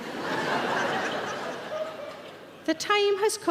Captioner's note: audience laughing